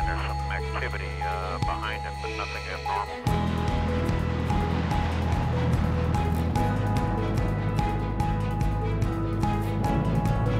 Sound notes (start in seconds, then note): 1.9 airplane taking off; 9.8 jet engines